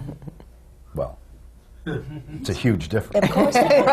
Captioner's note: laughter